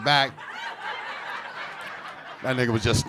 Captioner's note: audience laughing